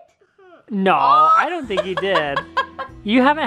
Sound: laughs

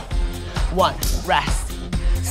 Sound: clapping

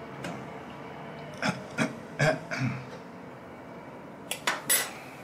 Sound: clears throat

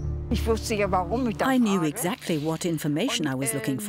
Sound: speaking German

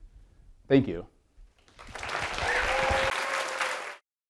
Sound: audience applauds

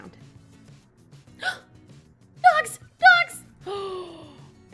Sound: smol gasp; long gasp

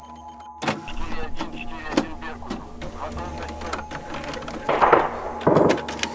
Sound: radio exchange

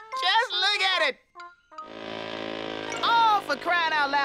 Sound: buzzing

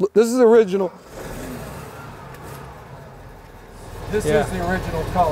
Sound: engine roaring

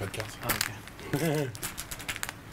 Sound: laughs

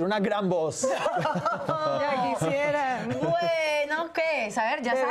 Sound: Risas

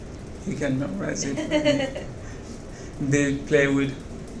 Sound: woman laughing

